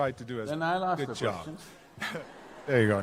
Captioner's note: laughter